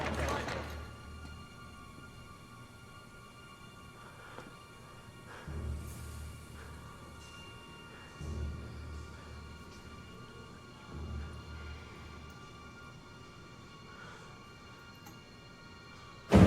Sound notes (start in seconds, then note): 5.0 panting